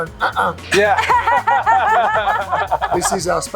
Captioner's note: laughing